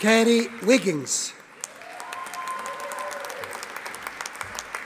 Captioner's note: audience applauding